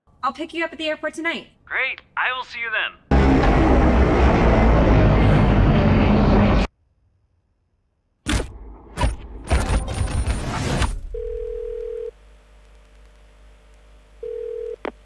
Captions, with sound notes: I'll pick you up at the airport tonight. Great! I will see you then! [dialtone] [dialtone]